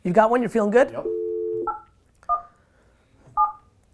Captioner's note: dial tone